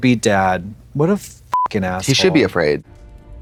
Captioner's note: beep